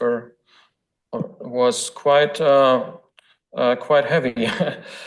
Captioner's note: laughs